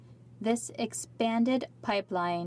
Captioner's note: speaking French